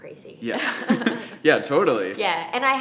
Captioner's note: laughing